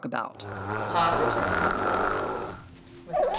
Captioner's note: gurgling